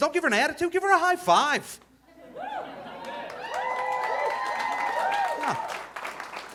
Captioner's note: audience cheering